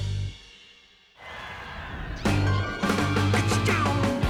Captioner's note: sirens wailing